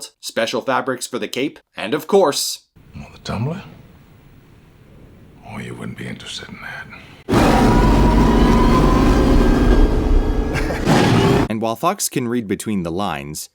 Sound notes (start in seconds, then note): 7.2 loud whirring of engine; 9.7 Nervous laughter from Fox, more engine noise